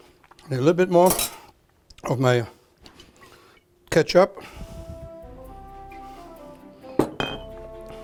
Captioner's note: bottle</b> <b>clinking